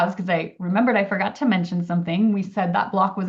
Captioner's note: none